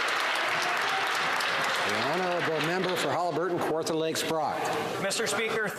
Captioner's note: some Applause